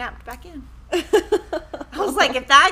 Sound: laughing

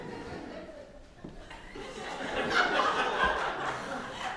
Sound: audience laughing

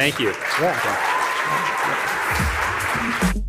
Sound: cheering and applause

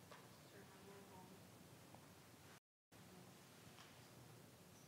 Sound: faintly speaking

